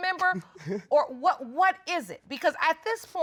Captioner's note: chuckling